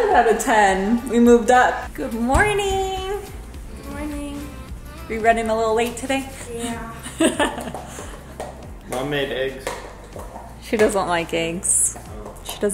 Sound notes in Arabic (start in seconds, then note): 6.9 يضحك